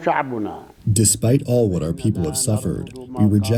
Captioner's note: through translator